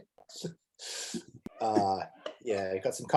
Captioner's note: chuckles